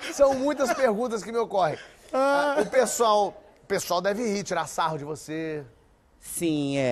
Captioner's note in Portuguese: risos